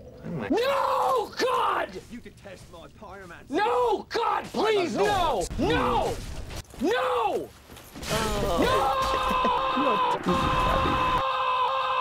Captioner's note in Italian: Urla infuriate